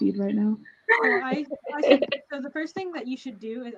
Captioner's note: laughing